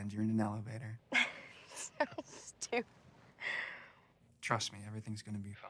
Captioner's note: laughs